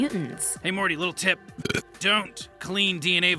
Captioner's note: belches